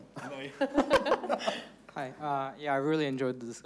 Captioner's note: everyone laughing